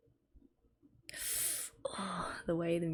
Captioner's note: sharp inhale